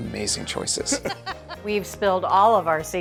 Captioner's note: laughs